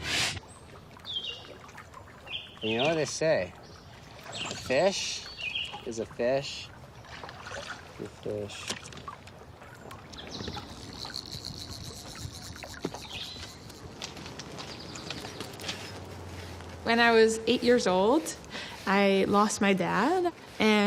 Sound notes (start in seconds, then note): 0.9 water and bird sounds; 9.8 birds singing